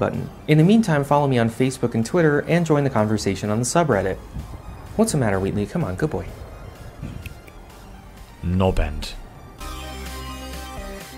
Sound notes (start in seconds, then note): 7.1 snap snap; 8.9 outro music